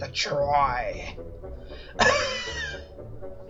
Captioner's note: cough